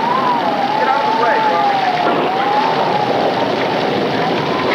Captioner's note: thunder rumbling